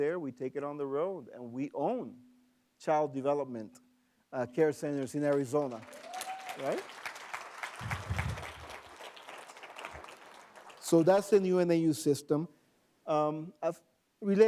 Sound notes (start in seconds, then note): 8.4 applause